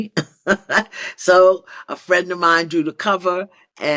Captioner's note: laughs